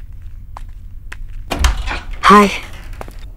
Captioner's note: Door opens